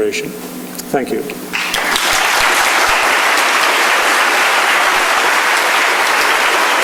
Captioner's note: clapping